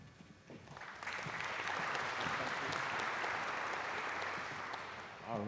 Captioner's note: applause